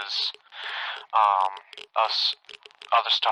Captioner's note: sigh